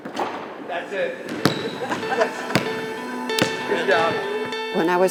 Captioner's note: laughs